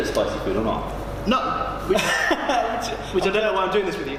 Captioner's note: laughing